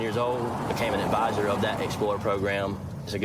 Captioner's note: vehicle accelerates